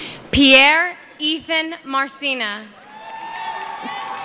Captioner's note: cheering